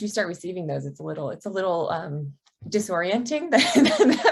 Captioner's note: chuckles